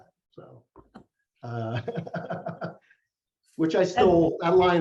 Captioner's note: laughs